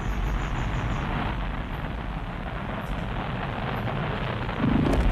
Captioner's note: sound becomes distorted